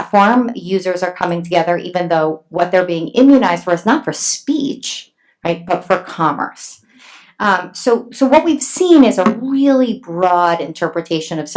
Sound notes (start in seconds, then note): none